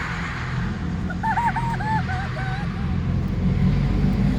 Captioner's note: excited laughing